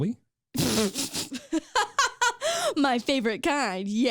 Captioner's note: laughs hysterically